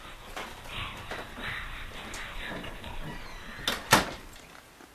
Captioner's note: mysterious whispering